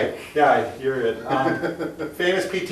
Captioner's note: laughing